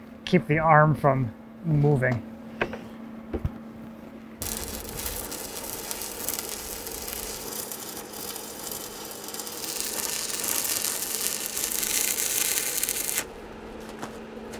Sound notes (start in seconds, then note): 4.7 welder sputtering